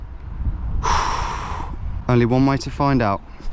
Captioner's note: exhales